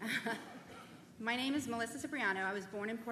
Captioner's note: laughter